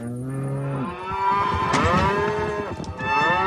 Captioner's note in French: Meuglements